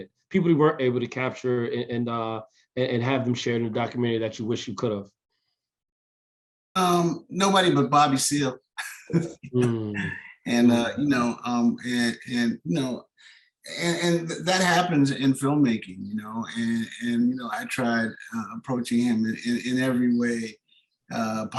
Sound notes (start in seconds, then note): 8.8 laughs